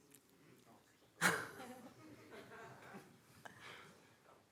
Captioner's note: chuckling